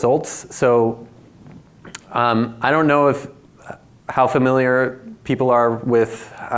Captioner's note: lip smacks